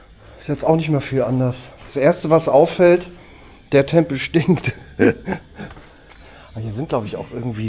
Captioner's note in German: gelächter